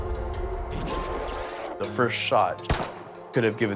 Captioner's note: gunshot